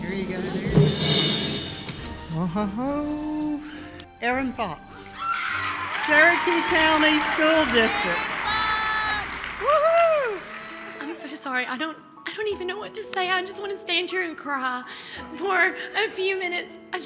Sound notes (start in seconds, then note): 0.0 drumroll pattering; 5.1 cheers and applause